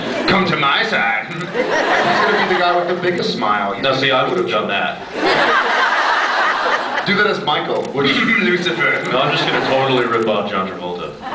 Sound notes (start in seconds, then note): 1.2 laughs; 1.3 evil laugh; 1.3 scattered laughs; 5.1 laughs; 8.0 evil laugh; 11.1 laughs